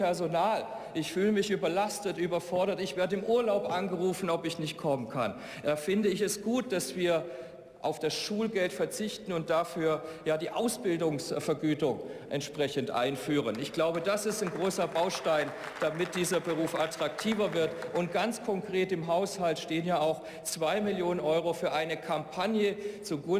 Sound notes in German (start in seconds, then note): 13.4 Beifall